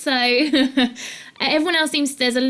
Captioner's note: chuckles